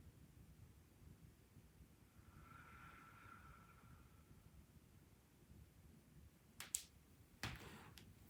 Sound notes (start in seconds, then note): 2.1 exhales softly